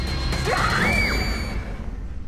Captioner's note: screams